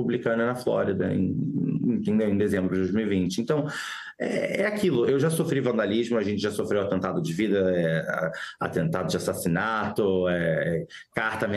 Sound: speaking non-english

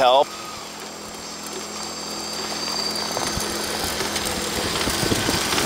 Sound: machine engine roaring

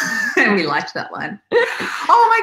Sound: laughs

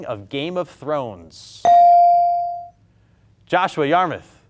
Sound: buzzer pings

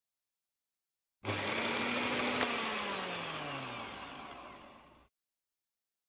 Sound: sound of motor hum

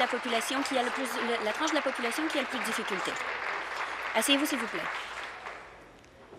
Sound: applause

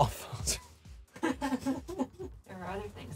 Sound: laughing

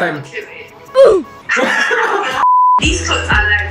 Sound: laughs

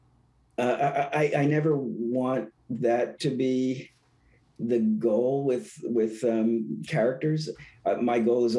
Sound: laughing

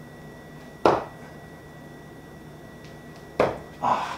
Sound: thuds

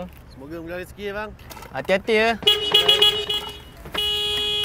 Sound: honk sound

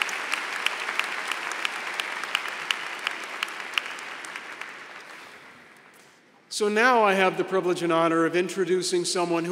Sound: applause

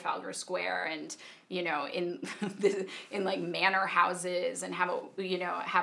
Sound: laughing

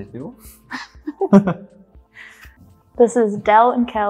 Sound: laughing

